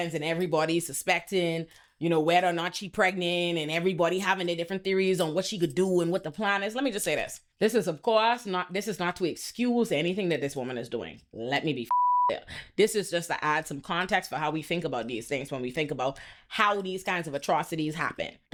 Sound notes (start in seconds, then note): 11.9 beep